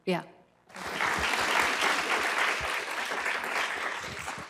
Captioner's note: applause